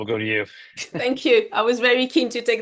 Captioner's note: chuckles